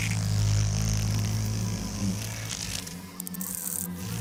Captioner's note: hornets buzzing